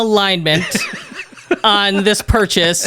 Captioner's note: laughs